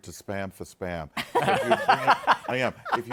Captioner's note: laughter